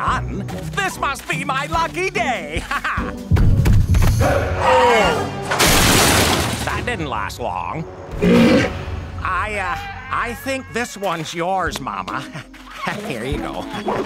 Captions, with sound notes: This must be my lucky day. Ha ha! [roaring] That didn't last long. [grunting] I, uh, I think this one's yours, mama. Here you go.